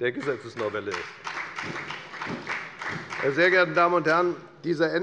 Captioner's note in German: Beifall bei der FDP